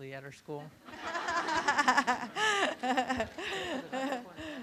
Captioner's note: room laughs